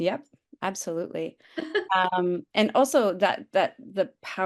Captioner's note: laughs